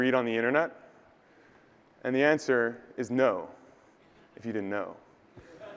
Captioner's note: audience laughter